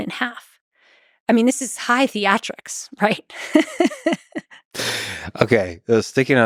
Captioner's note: laughs